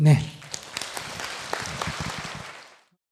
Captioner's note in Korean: 청중 박수